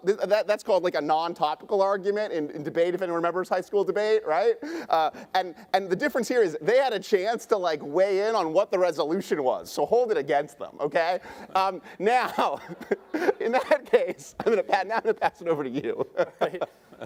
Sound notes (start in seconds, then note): 12.1 laughing